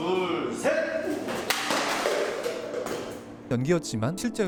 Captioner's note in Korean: 물건들이 떨어지는 소리